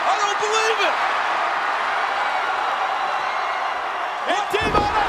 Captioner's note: audience cheering